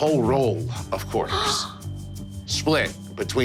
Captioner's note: gasping